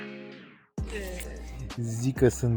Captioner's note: drinking alcohol